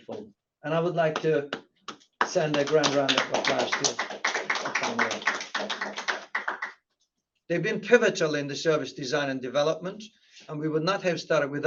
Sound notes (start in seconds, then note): 6.2 applause